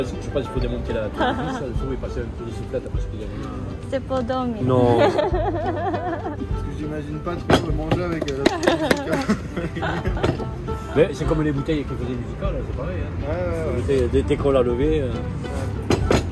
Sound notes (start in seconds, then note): 8.5 laughs